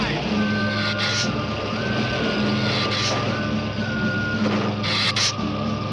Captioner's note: dramatic music; lizard hissing